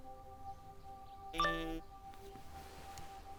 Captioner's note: phone chimes